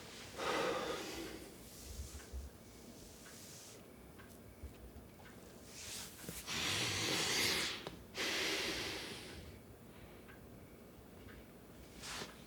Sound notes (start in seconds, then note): 0.8 Ulysses sighs; 8.2 Ulysses breathes heavily